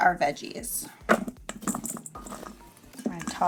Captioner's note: vegetable thudding